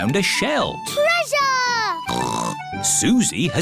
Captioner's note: snorts